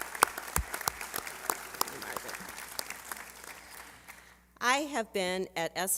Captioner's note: applause